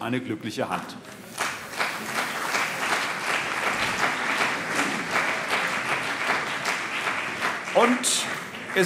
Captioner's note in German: Beifall CDU und BÜNDNIS 90/DIE GRÜNEN